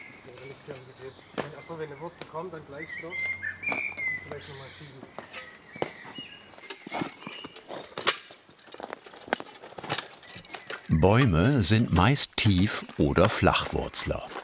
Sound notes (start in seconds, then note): 1.4 soft conversation, birds chirping